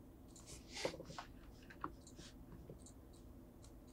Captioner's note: mouse clicking